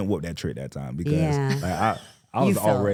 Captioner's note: laughs